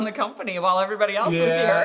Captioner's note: laughing